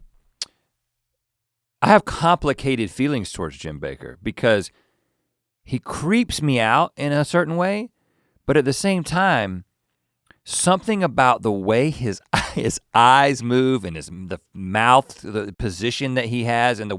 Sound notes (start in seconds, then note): 12.3 laughs